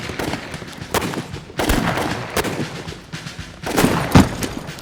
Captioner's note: gunfire